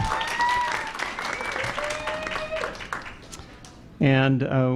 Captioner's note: applause